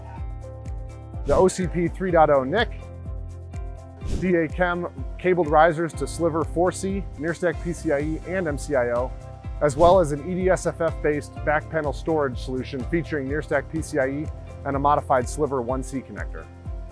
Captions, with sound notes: (screen whooshing) the OCP 3.0 NIC, (screen whooshing) DA CEM cabled risers to Sliver 4C, NearStack PCIE, and MCIO, (screen whooshing) as well as an EDSFF-based back panel storage solution featuring NearStack PCIE and a modified Sliver 1C connector.